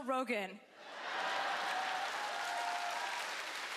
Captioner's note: cheering